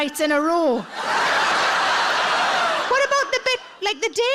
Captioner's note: audience laughs